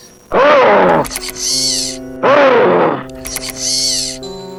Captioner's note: animatronic roars